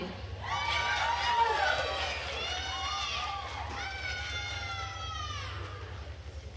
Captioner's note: attendees cheering and applauding